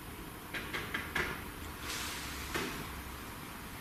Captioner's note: tapping